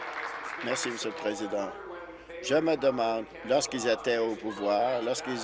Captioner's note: applause